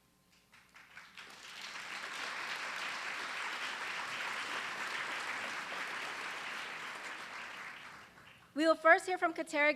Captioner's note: applause